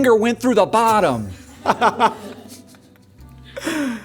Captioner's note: laughing